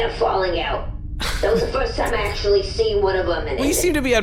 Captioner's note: PLECK laughs quietly